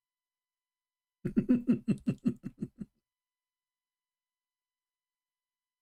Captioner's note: Ketawa